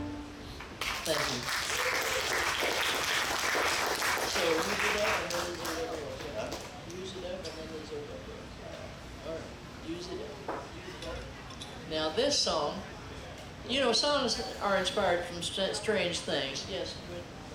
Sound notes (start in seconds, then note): 0.7 audience clapping